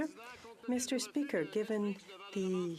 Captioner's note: speaking French